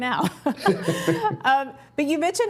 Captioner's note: both laugh